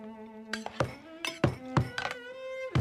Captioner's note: Helen Hits Table